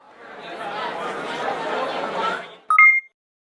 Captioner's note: people chattering